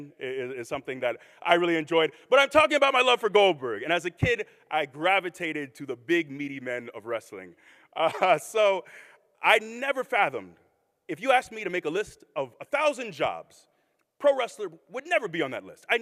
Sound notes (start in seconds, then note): 8.0 chuckles